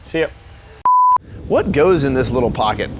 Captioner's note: beep